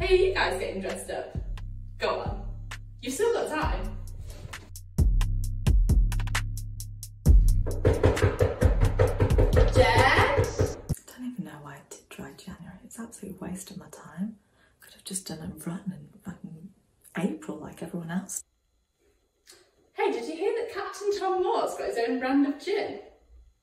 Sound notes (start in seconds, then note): 7.6 knocks on door; 8.9 shouts